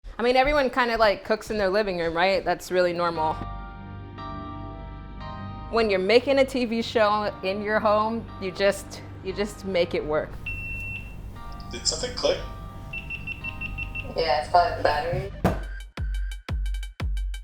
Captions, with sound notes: - I mean everyone kinda like cooks in their living room right? That's really normal. When you're making a TV show in your home, you just...you just make it work. (loud beep) (rapid beeping)